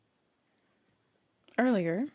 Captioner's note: speaking French